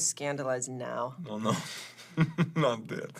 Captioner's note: Radovan laughs